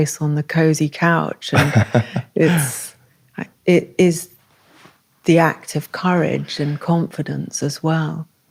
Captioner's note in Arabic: ضحك